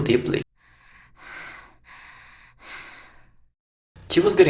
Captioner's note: exhalation sound